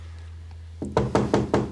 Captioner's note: deep breath; knocking